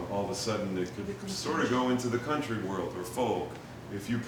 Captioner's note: none